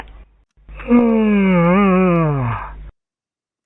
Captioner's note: yawns